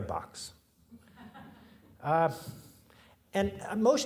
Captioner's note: audience laughing